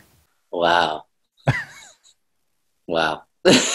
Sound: Sadhguru laughs; laughs

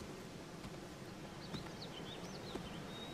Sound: birds chirping; footsteps

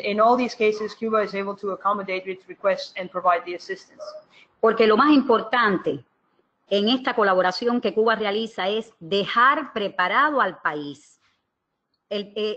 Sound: speaking another language

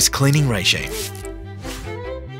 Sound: spray sound

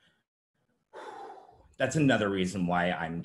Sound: exhales sharply

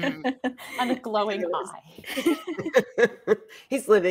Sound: all laughing

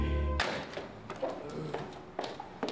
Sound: door slams open

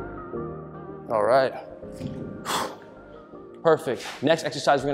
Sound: exhales loudly

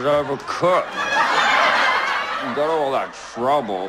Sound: laugh track

